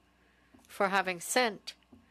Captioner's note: speaking French